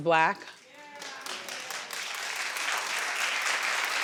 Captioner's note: audience applauding